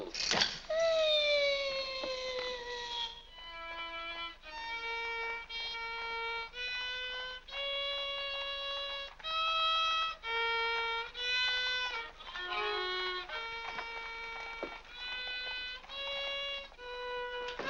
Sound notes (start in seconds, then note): 0.2 loud click; 1.2 Harlan makes whining sound; 3.5 violin plays unsteadily